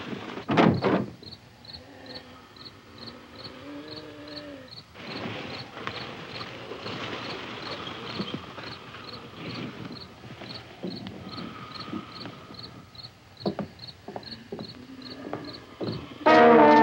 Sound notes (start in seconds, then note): none